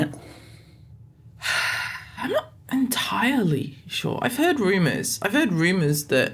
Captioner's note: sigh